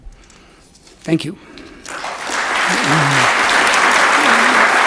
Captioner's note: audience applauds